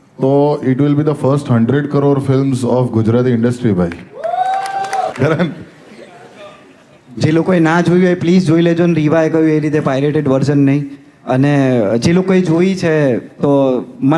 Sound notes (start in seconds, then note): 3.9 crowd applauding